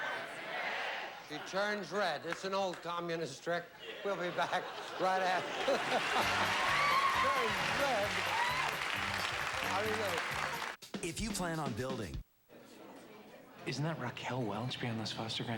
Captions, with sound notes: SHE TURNS RED. IT'S AN OLD COMMUNIST TRICK. WE'LL BE BACK RIGHT AFTER... [CHUCKLES] TURNS RED.